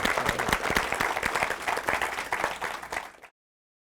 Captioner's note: audience applauds